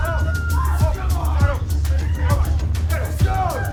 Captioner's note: dramatic music; all screaming